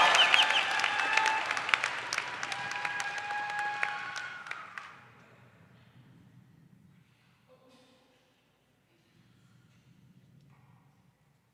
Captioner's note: applause